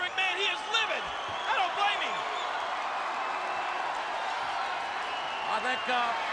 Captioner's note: audience cheers